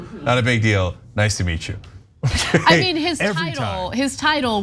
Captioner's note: laugh